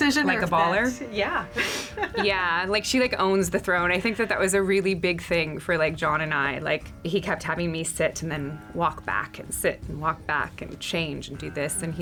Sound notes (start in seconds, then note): 1.5 laughs